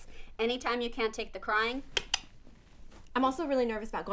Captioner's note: clicking tongue/imaginary remote